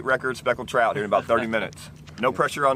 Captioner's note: laughing